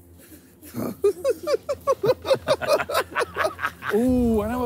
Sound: laughing

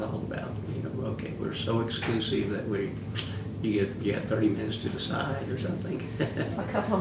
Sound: laughs

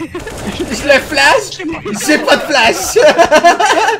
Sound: repeats laughing

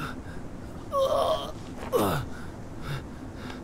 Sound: maoning in pain

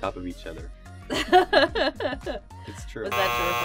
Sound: laughing

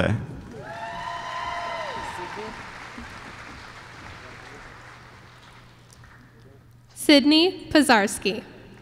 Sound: applause

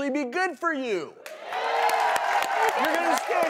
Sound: applauding and cheering

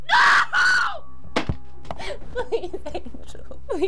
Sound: telephone thuds

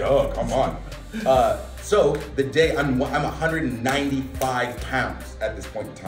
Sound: laugh

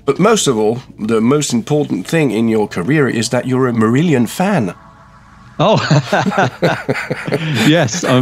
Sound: laughter

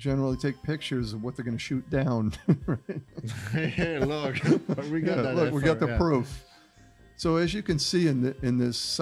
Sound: laughter

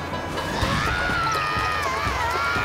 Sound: screaming

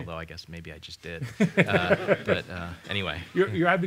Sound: laughter

